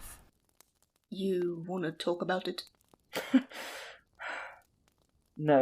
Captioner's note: Remus laughs sadly